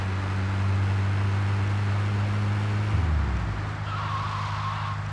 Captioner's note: plane engine roaring